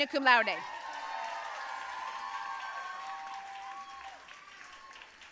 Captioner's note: audience cheering and applauding